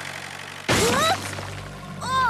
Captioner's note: bang!